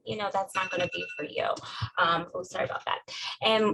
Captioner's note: cellphone notification